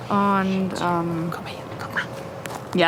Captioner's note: whispers